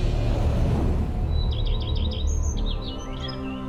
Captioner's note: birds chirping